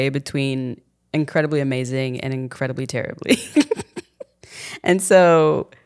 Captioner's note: chuckling